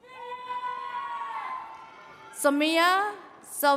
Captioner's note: attendees cheering